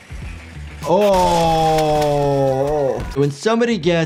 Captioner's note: groans with disgust